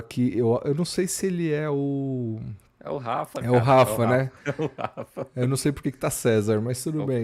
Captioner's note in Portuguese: risadas